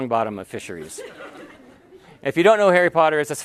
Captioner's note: laughter